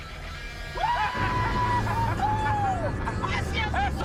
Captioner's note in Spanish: Gritos y exclamaciones